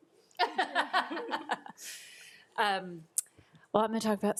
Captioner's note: laughs